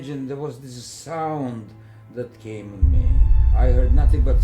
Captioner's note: rumble